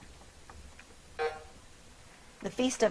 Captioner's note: buzzer drones